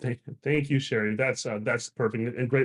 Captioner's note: chuckles